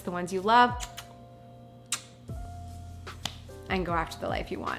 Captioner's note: lips smacking